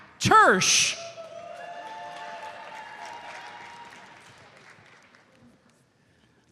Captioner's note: audience cheers and applauds